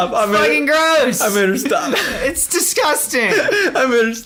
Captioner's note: laughs